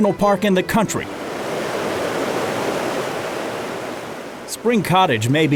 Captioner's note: water flowing